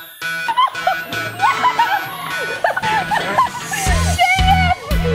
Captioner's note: laughing; pop music